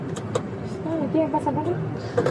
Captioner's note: speak in Foreign language; man speak in Foreign language